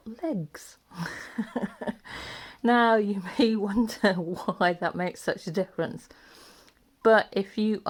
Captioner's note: laughs